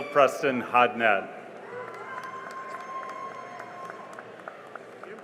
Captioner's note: cheering and applause